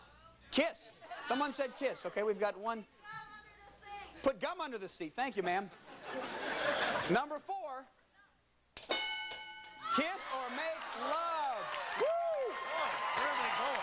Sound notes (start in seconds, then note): 5.6 laughter; 8.8 bell dinging